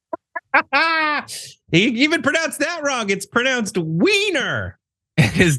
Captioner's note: laugh